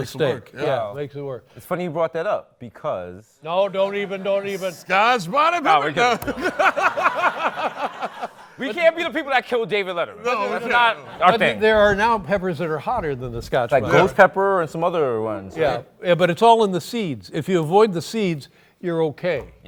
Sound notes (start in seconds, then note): 5.9 laughter